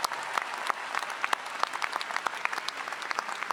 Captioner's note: all applauding